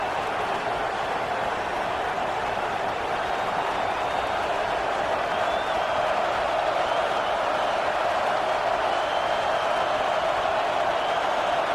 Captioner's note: crowd Noises